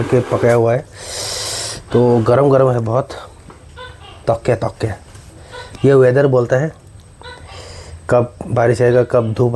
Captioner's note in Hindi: नाक से की जाने वाली आवाज़